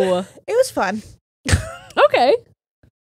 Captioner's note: laughs